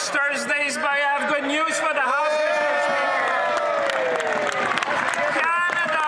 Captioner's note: some Applause